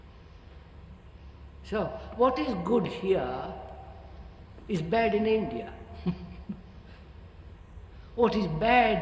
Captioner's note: laughs